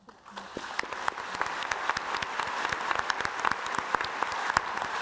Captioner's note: audience applauding